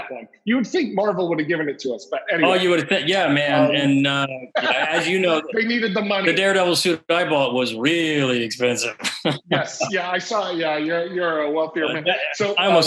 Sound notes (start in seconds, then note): 5.1 laughs